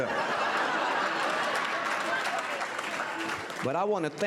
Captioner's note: audience laughter and applause